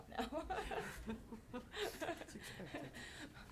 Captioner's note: laughing